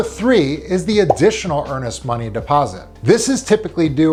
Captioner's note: graphic blipping